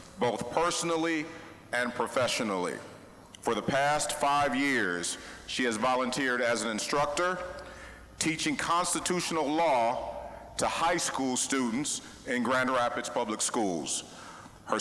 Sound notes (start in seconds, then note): none